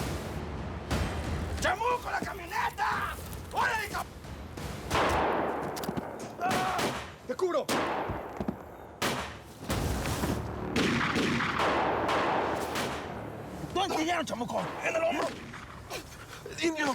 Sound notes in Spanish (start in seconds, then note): 7.6 siguen los disparos